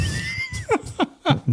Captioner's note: laughing